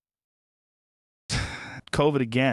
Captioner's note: sighs